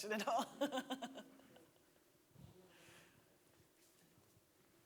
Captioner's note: laughing